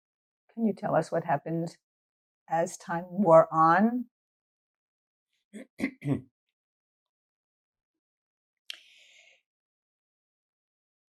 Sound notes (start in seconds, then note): 5.5 clears throat; 6.4 pauses 10 seconds